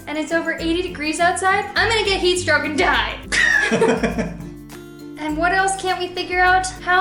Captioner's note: laughter